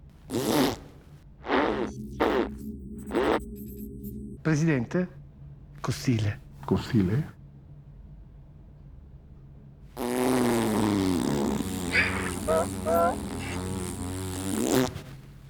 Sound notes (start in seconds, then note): 1.4 blows a raspberry; 10.0 blows a long raspberry; 12.4 long raspberry continues